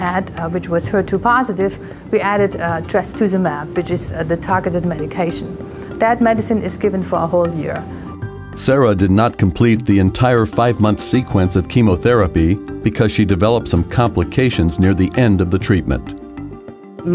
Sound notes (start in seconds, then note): 8.5 voiceover